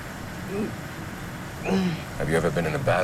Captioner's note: Jeremy stammers